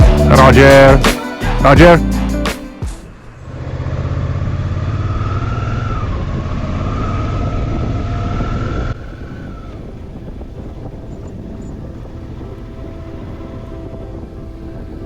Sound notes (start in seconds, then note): 3.0 motorbike engine; 9.1 cinematic music